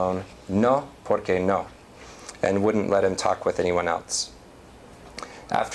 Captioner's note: non-english